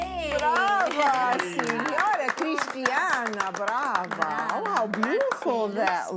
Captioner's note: applause